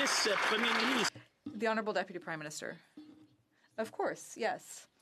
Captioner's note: some Applause